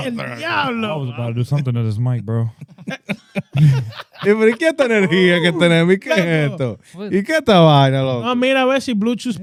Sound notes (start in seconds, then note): 4.3 laughing; 4.3 speaking In Foreign Language